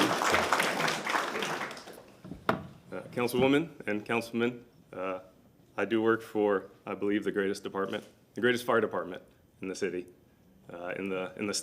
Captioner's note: applause